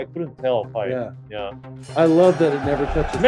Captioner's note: bell ringing